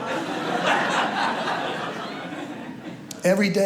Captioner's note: audience laughs